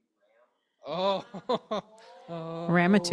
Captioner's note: chuckles